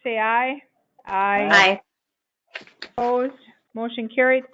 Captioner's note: chorus of aye's